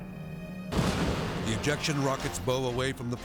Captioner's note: aircraft booms